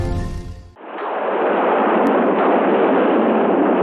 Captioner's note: thunder crashing